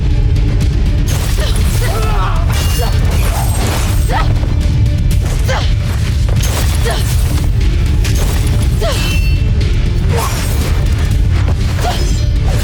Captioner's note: intense music playing; grunting, growling, groaning; zapping, clanging, thumping